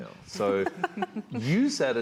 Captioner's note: panel laughs